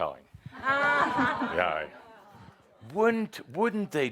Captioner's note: some laughter